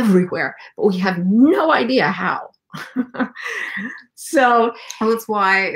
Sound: chuckles

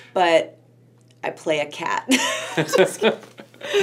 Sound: laughs

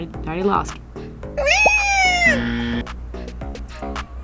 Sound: Furby screeches; buzzer

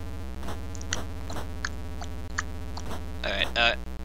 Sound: imitates clock

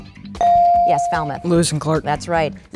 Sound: dinging

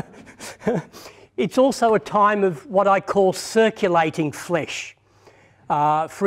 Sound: laughter

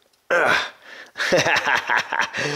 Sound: grunts; laughs

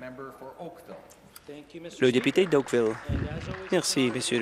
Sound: applause

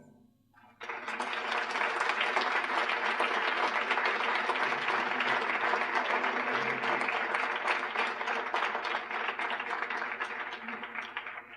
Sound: applause

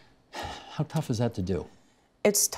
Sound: sighing

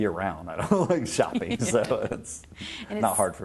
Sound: laughing

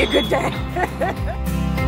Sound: laughs

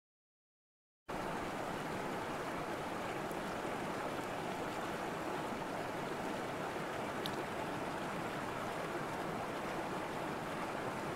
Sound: sound of river

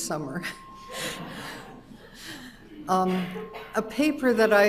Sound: audience laughing

